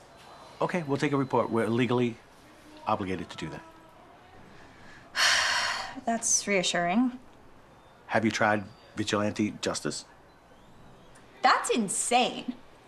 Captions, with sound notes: - Okay, we'll take a report. We're legally obligated to do that. - (sighing) That's reassuring. - Have you tried vigilante justice? - That's insane.